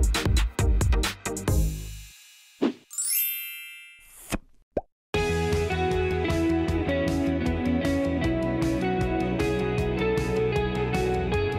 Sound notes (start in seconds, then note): 2.9 chiming; 5.1 upbeat music